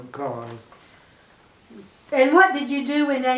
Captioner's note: silence